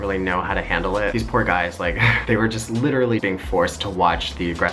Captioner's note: chuckles